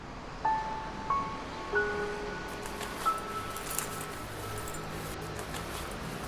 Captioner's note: soft piano music; traffic sounds